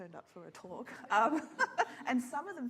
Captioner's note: laughs